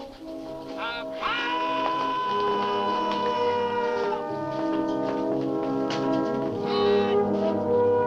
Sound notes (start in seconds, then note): 0.8 man yells